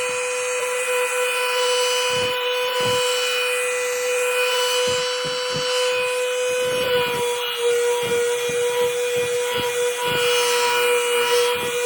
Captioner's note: sander noise!